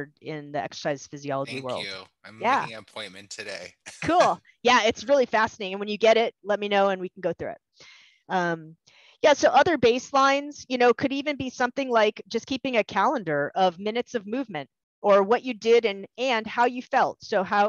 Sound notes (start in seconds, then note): 3.8 laughter